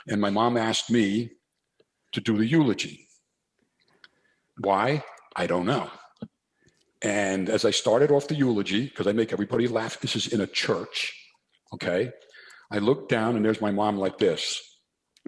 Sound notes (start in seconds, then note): none